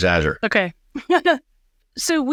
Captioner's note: chuckles